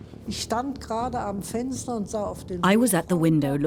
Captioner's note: speaks in foreign language